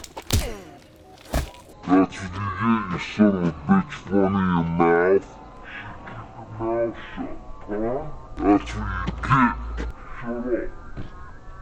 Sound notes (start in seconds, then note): 0.0 loud punch; 2.1 warped voice